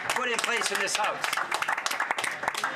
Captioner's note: some applause